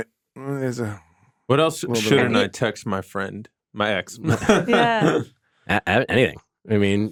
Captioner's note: laughs